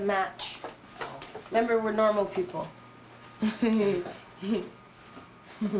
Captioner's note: laughing